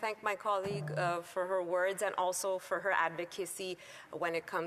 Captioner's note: speaking French